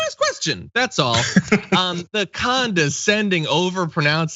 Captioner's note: laugh